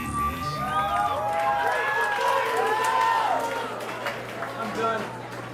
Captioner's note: audience cheering